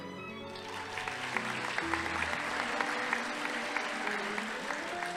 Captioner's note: audience applauding